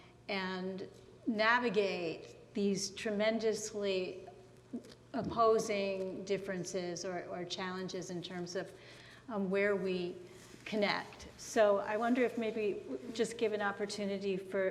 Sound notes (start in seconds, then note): none